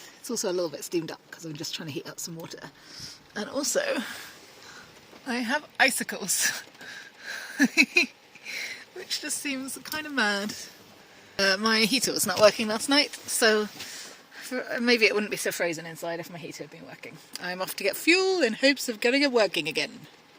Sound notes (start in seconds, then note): 7.3 chuckles